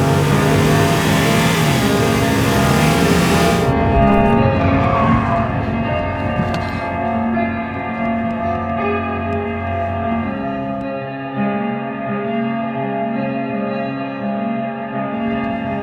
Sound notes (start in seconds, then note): 4.9 car screeches to a stop, music still glaringly loud